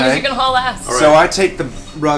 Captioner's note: laughs